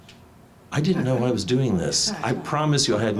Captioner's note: audience chuckles